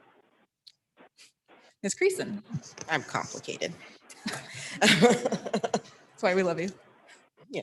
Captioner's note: laughs